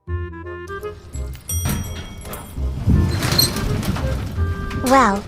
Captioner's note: elevator dings and opens